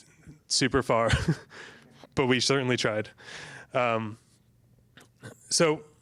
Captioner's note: chuckles